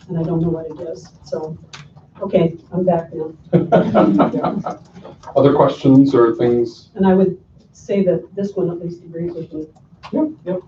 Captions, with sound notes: And I don't know what it is. So, okay. I'm back now. (laughter) - Other questions or things? - And I would say that this will not take too briefly.